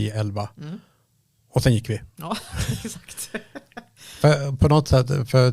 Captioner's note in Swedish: skratt